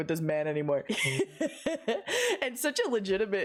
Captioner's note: wheezy laugh